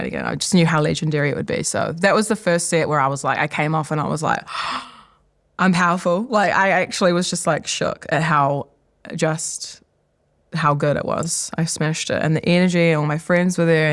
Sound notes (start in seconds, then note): 4.4 gasps